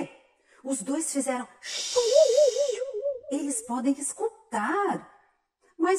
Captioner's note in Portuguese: efeito sonoro indicando surpresa